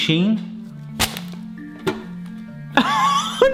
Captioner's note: chocolate slaps in wrapper; laughs incredulously